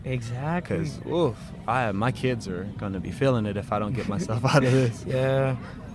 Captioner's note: laughs